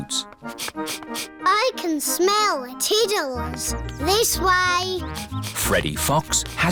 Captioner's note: sniffs